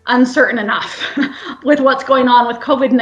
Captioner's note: chuckles